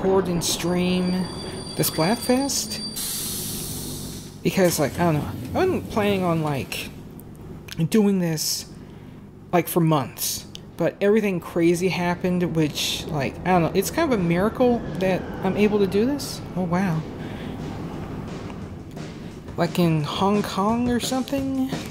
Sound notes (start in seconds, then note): 0.0 train screeching to halt; 2.6 steam releasing; 5.0 train doors opening; 14.1 aeroplane jetliner flying; 16.7 Wii U Menu Start Up plays